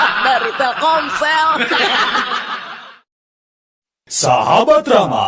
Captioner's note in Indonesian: tertawa